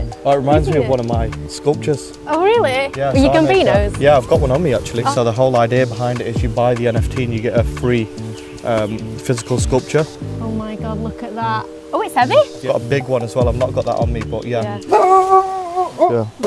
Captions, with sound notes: That reminds me of one of my sculptures. - Oh, really? Your Gumbino’s. - Yeah I've got one on me, actually. So the whole idea behind it is you buy the NFT and you get a free physical sculpture. Oh, my God. Look at that. Oh, it’s heavy. I’ve got a big one as well. I've not got that on me, but, yeah. *Dog barks*